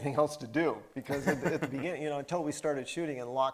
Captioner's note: laughing